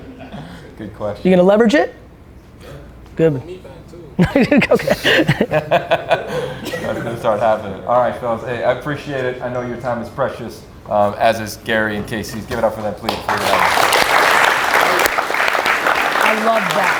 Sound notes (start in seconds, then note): 1.2 group laughs; 4.2 laughs; 7.2 group laughs; 13.0 group applauds